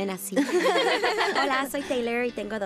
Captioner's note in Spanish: risas